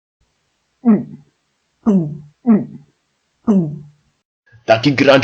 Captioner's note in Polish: połykanie